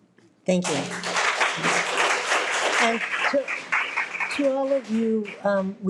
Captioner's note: audience clapping